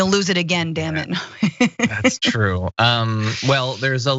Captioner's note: laugh